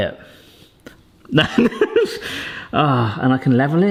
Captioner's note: laughs